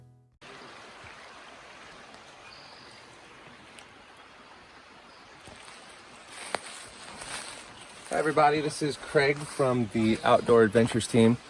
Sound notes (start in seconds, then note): 0.5 nature sounds